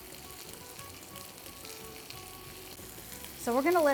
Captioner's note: pan sizzling